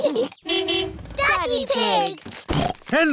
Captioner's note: horn honks; snorts